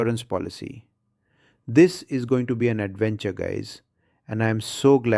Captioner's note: excited